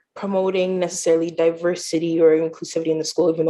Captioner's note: none